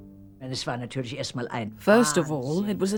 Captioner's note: speaking german